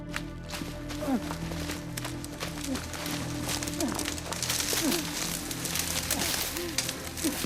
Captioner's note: labored breathing